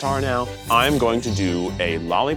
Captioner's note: knives snicking